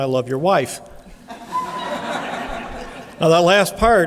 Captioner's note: laughing